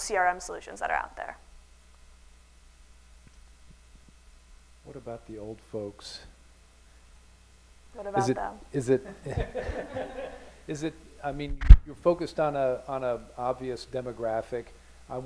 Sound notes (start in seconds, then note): 9.0 laughter